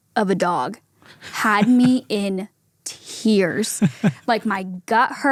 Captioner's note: chuckles